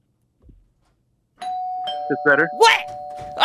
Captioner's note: door bell rings